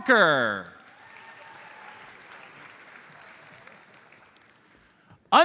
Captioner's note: audience applauds